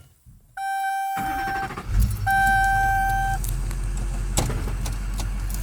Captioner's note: car pinging; engine starts